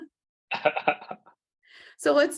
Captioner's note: laughing